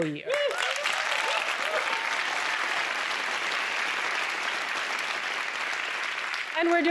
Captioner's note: applause